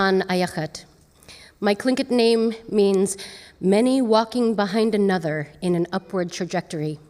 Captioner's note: speaking tlingit language